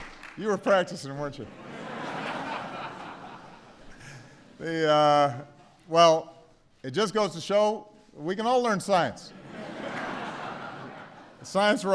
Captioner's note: laughter